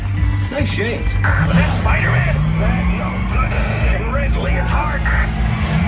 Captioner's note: static